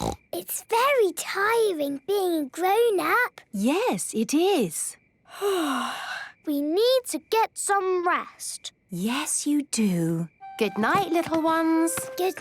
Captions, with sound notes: - Snort! It's very tiring being a grown-up. - Yes, it is. - (yawning) We need to get some rest. - Yes, you do. - Good night, little ones.